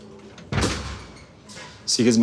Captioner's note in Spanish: Portazo